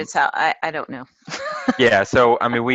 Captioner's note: laugh